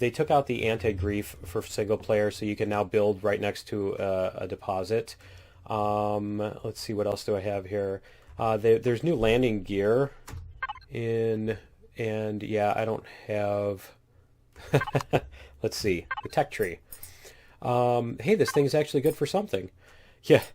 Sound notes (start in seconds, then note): 14.6 laughs